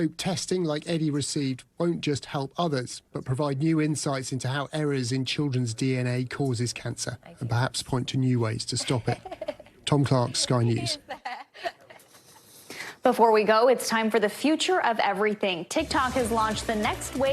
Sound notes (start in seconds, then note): 6.6 laughter